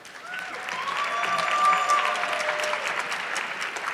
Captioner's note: audience clapping